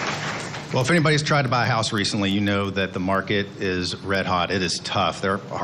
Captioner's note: applae